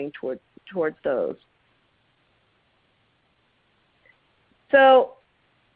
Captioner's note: silence